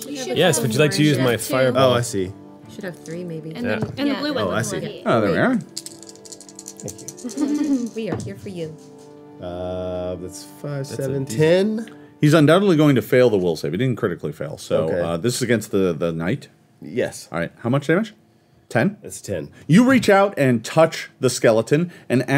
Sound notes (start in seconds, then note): 5.6 dice clacking